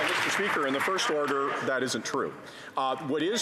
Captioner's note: some Applause